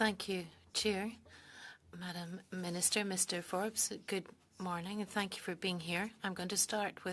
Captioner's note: speaking French